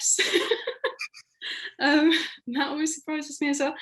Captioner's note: laughing